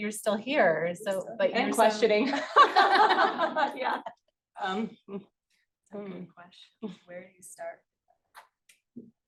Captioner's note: laughing